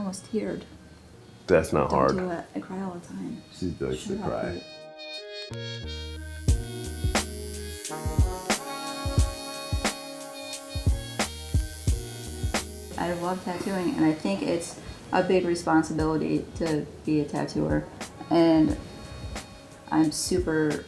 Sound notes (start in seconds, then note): 4.9 mellow funk music; 6.1 tattoo needle buzzing